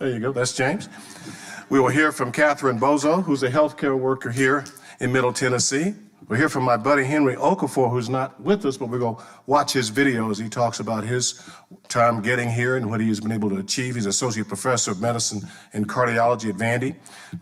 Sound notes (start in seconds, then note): none